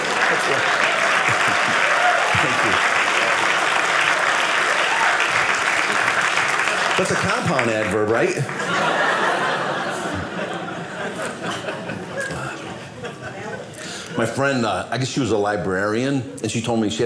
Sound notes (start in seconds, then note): 2.9 audience applauding; 8.4 audience laughing